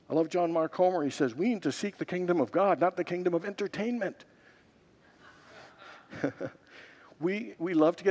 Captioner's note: laughs